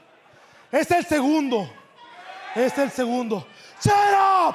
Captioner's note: speaking in foreign language